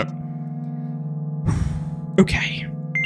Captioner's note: exhales